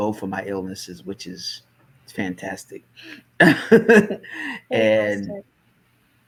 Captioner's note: laughs